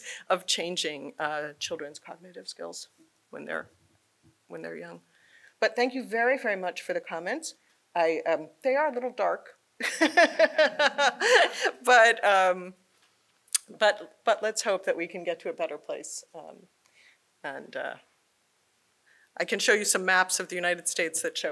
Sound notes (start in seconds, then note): 9.8 laughs